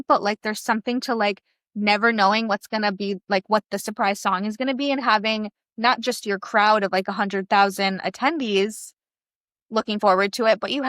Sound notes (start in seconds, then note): none